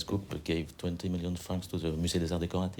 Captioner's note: french